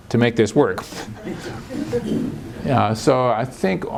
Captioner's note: laughter